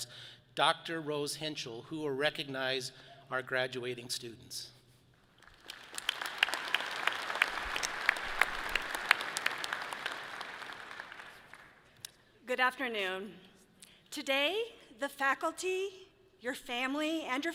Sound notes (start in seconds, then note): 5.4 audience applauds